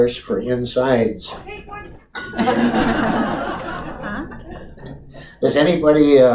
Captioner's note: audience laughter